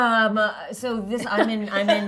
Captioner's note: laughing